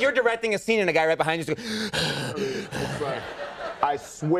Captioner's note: Conan panting